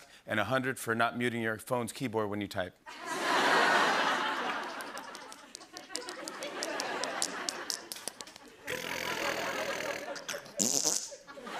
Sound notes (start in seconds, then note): 2.7 laughter; 4.5 imitating keys clacking; 11.3 laughter